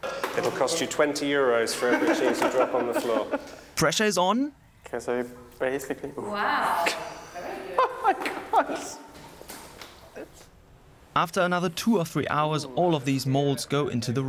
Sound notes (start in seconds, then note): 1.7 laughing; 9.3 laughs